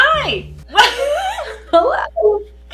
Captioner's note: laughs